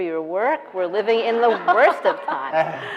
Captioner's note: laughing